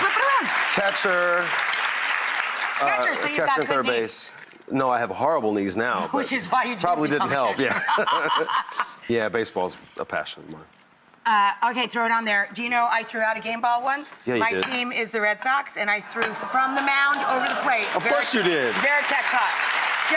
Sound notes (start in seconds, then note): 7.6 laughing